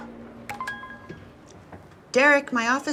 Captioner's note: computer beeps